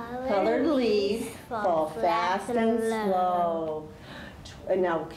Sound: both say in unison

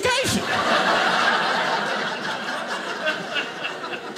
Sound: audience laughing

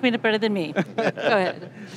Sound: laughing

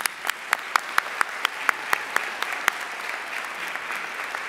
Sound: audience applauding

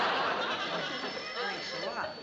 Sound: telephone rings

